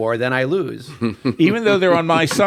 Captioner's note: laughs